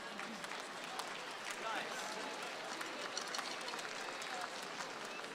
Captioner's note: audience applauds